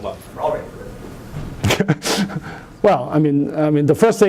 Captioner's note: laughs